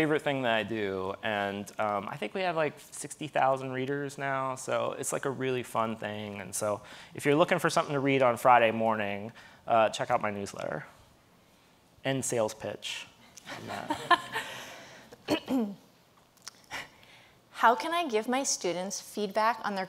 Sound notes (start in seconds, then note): 13.5 audience laughing